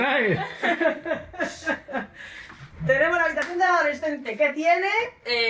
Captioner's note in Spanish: risas